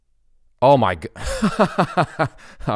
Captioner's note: laughs